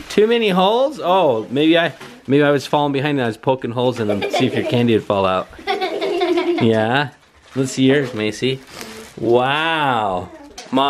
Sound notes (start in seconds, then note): 5.5 girls laugh